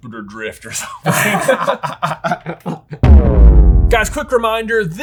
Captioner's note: both laugh